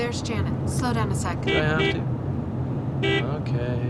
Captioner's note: honks horn